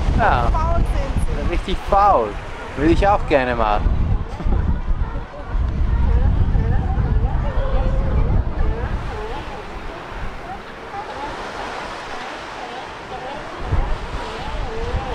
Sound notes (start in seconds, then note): 6.2 elephant seal calls